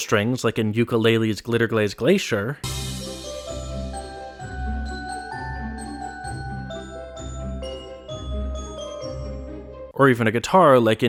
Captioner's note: bang